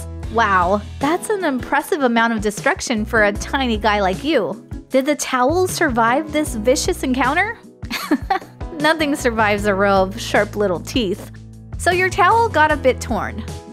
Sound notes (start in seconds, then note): 7.8 chuckle